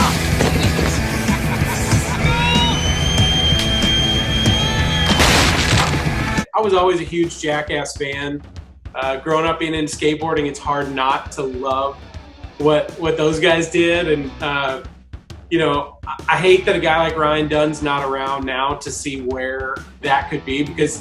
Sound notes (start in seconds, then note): 0.0 branches crunching; 0.3 grunting; 2.0 whistling; 5.0 furniture crumbling